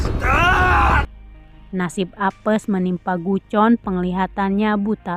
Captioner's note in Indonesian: berteriak